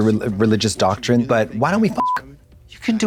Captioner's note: beep